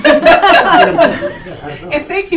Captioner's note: all laughing